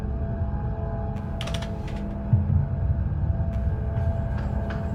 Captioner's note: keys clacking